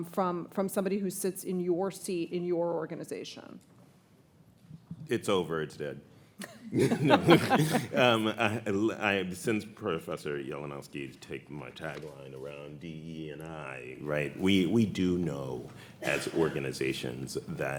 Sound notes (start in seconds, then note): 6.7 audience laughs